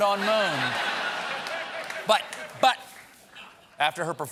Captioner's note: laughter